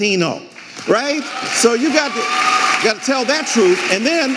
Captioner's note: audience applauding and cheering